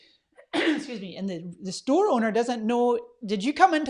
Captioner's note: coughs